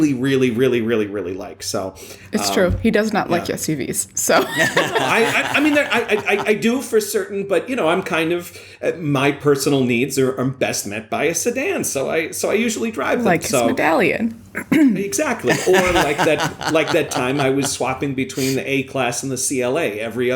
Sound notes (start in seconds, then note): 4.3 laughter; 15.3 laughter